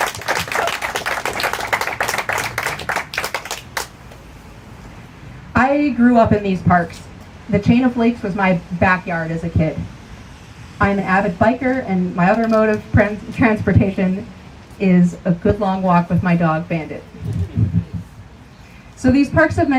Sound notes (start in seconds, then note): 2.6 cheers and applause